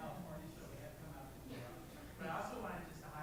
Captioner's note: speaks softly